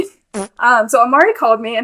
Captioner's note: farts excitedly